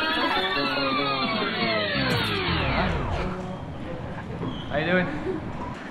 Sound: audio tape slowing

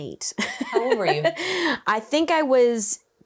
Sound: laughs

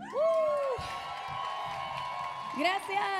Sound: audience applauding; audience cheering; speaking in Spanish

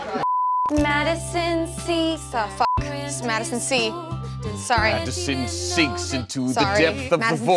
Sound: beep

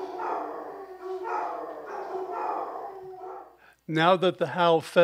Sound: dogs continue to howl; dogs stop howling

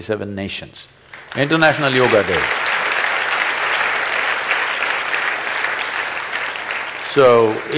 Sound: applause

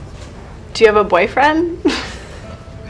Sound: she sniggers

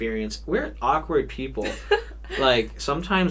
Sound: laughs

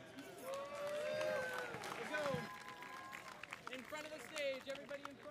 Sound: audience cheering

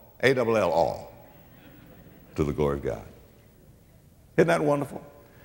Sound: audience laughter

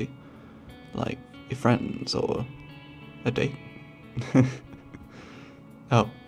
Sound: laughs

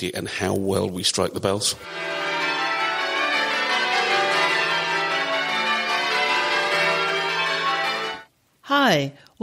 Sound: bells ringing rounds

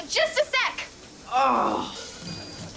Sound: groaning

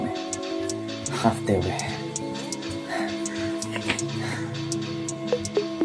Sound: out of breath

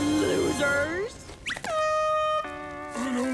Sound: air horn blowing

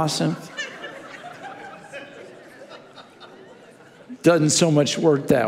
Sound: congregation laughing

